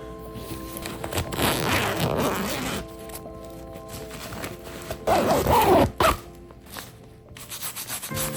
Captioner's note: opening and closing zipper